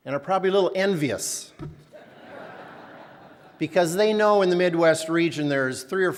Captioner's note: laughter